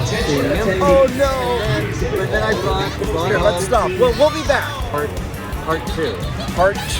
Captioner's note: loudspeaker announcement